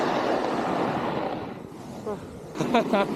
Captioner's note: sound of riding